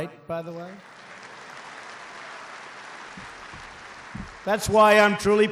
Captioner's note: applause